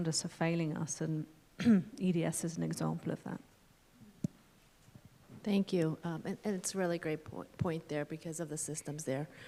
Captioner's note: clears throat